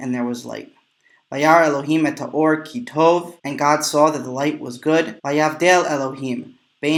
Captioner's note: Hebrew